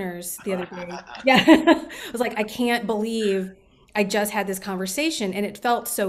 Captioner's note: laughter